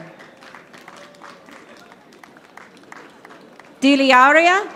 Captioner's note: audience applauding